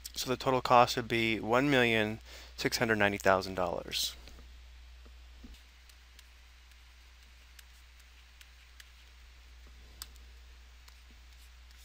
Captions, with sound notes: So the total cost would be $1,690,000. [mouse clicking]